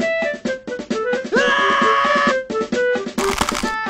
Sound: screaming

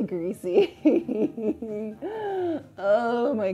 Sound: laughs

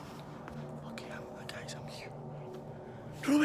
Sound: hushed

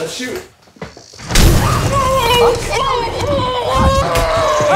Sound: painful moaning

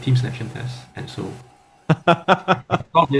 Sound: laughter

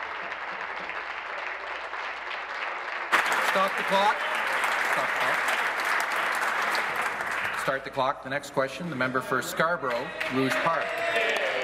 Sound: applause

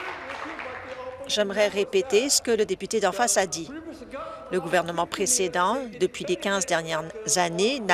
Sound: applause

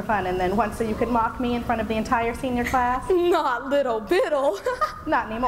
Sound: giggling

